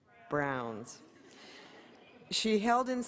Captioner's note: laughter